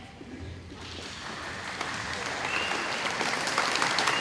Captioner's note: audience applauding